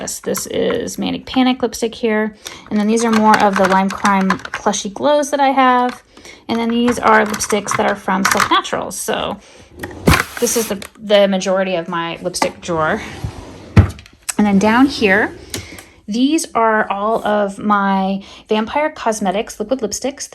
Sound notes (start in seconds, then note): 13.6 drawer thudding